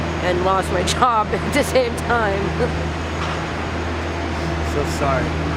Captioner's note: laughs